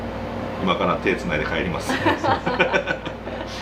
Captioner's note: laughs